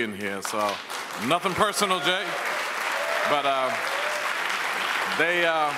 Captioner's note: audience applauds